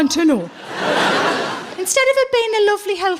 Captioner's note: laughing